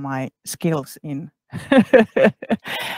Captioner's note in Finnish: Laughs